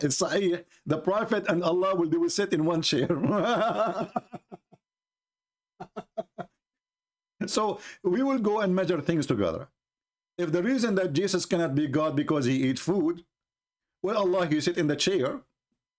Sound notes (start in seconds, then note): 3.3 Ketawa